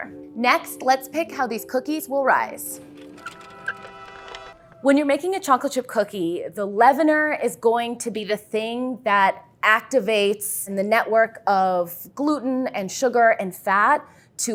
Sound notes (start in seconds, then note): 2.8 cart wheels; 3.1 horns